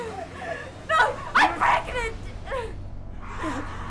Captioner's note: sobs; Sue whimpering